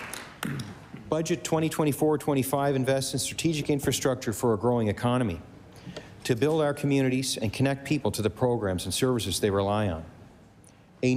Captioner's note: applause